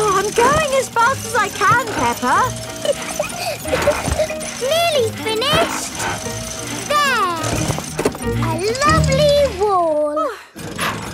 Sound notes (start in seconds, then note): 2.8 peppa laughing